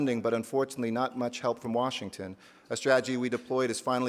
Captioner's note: none